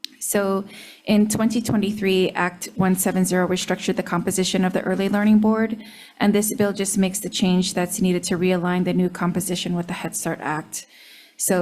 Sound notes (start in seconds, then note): none